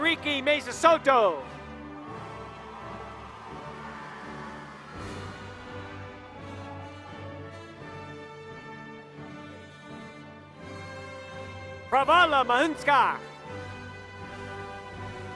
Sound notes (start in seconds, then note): 0.0 applause